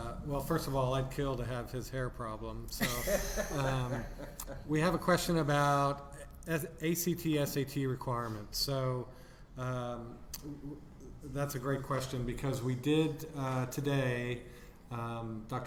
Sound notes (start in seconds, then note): 2.8 laughing